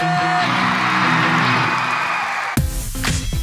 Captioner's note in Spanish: aplausos del publico